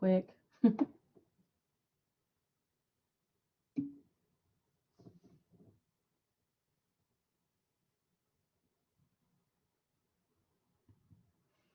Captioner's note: laughter